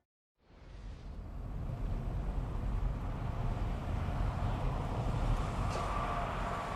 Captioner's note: traffic